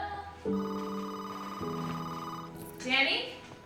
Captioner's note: telephone ringing